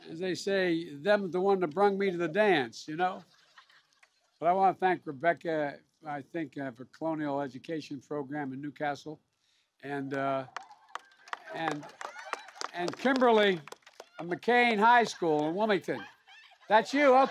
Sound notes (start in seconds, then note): 10.0 applause